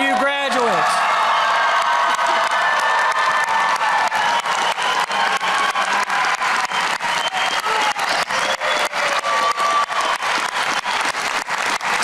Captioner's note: applause